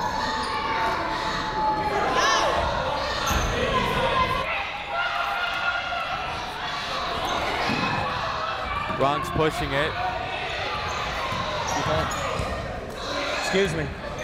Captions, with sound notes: (crowd noise) Bronx pushing it, excuse me. On the floor,